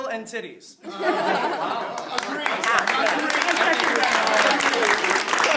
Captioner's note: applause